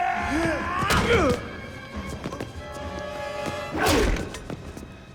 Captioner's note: Dalton thudding; punches thudding